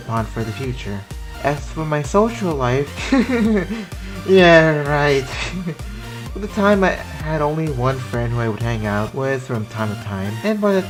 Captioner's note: fake laughs